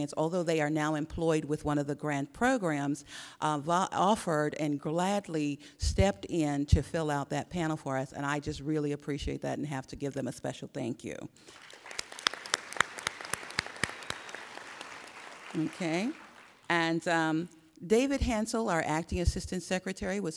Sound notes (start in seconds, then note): 11.4 applauding